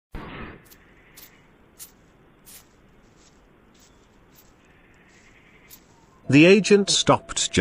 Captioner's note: leaves Crinkle